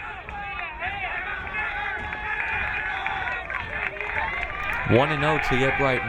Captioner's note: crowd cheering